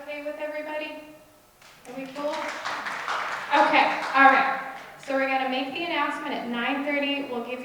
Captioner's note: applause